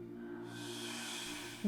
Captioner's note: breathes deeply